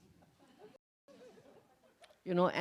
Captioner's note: laughs